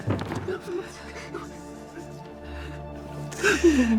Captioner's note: Jacob whimpering